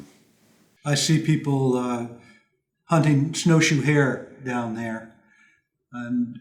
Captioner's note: voiceover